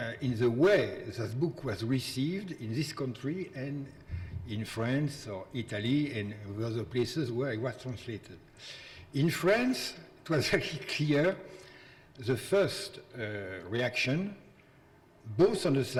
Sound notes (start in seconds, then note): none